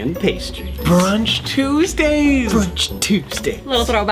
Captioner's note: gasps